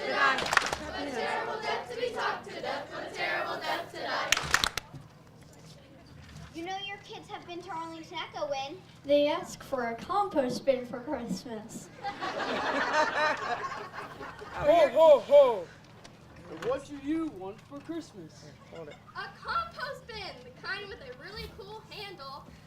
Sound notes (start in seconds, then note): 4.2 rhythmic clapping; 11.9 audience laughs